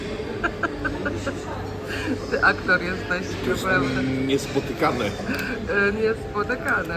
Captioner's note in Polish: śmiech